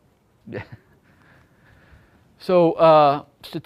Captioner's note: laughs